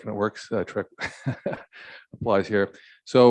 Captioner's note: chuckles